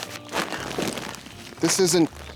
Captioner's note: crumbling; crinkling